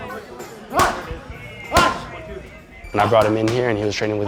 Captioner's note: shouting